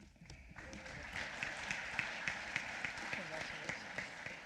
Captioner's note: applause